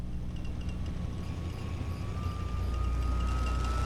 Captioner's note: ship taking off